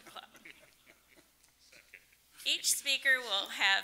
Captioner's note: laughing